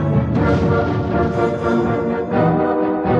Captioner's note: booming